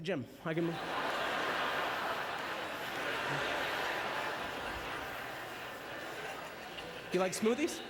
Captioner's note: audience laughter